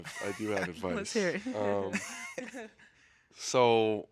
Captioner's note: hosts laughing